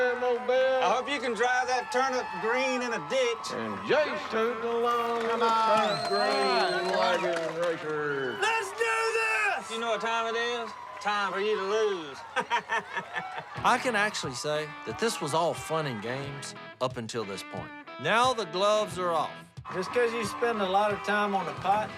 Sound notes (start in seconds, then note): 11.1 laughing